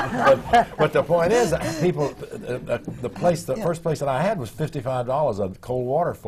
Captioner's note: laughter